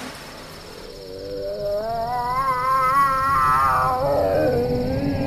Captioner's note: water splashing; eerie, cat moaning